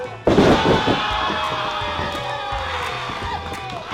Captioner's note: audience cheers; body slams; upbeat music